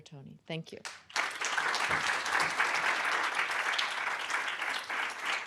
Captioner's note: applause